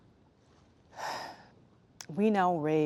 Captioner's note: sighing